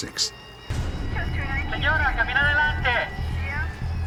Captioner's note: officer speaking spanish